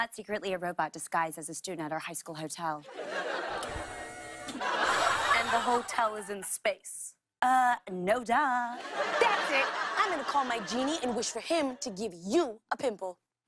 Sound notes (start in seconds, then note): 3.8 whirring